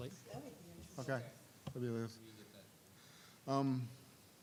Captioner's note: group chatter